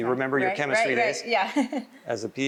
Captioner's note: chuckles